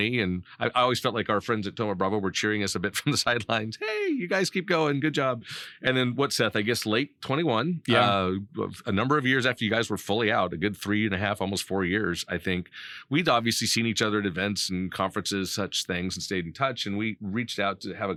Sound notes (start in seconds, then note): 3.7 laughing